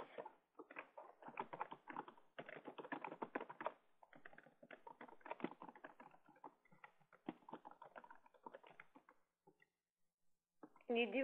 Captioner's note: typing Sounds